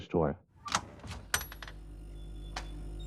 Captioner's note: door open